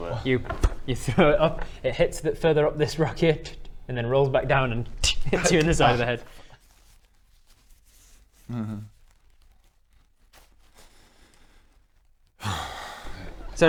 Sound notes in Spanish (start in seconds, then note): 0.6 pff; 12.4 suspiro; 12.4 respiración calmante